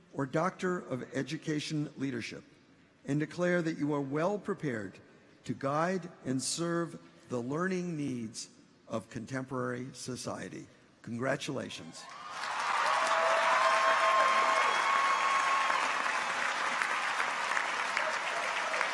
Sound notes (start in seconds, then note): 12.0 people cheer; 12.1 audience applauds